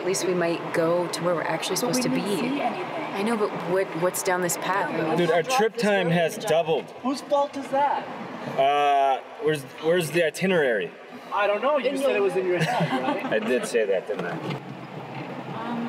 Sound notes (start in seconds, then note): 5.3 chattering; 12.5 laughing